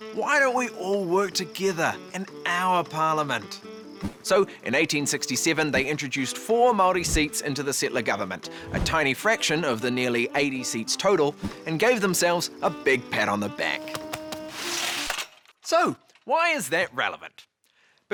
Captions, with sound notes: "Why don't we all work together and our parliament?" So in 1867, they introduced four Māori seats into the settler government, a tiny fraction of the nearly 80 seats total, and gave themselves a big pat on the back. (back patting) (curtain scraps) So, why is that relevant?